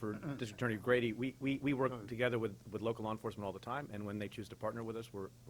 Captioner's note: stutters